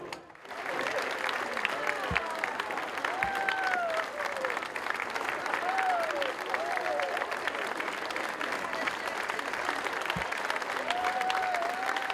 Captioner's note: applause